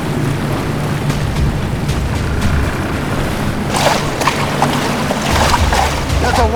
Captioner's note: dramatic music; water splashing; line twangs